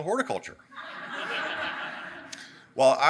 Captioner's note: audience laughing